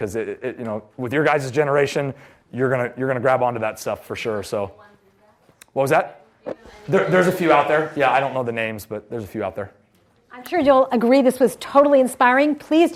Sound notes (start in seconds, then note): 5.0 voiceover